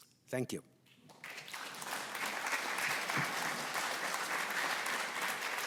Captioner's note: audience applauding